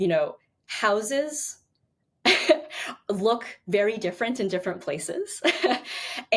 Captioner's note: chuckles